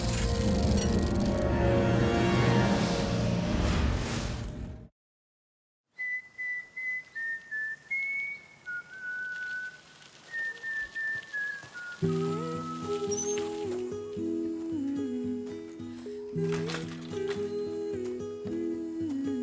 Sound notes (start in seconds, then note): 6.1 whistling; 12.0 mellow guitar melody playing